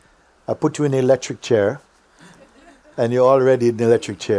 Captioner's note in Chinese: 笑声